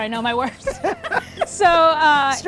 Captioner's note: laughs